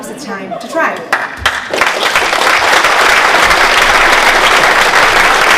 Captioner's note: applause